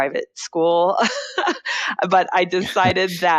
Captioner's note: laughs